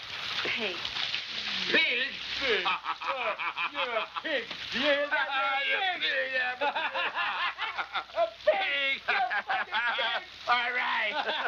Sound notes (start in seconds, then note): 3.1 laughing